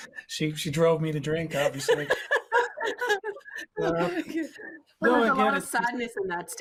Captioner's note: laughing